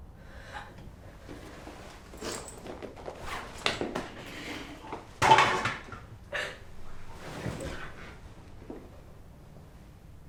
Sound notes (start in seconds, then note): 1.3 unzipping bag; 6.1 crying